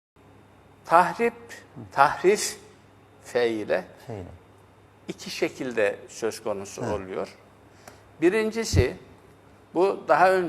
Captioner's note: distortion